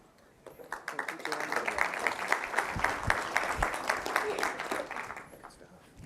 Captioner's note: applause